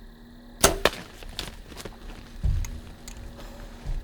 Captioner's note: arrow pops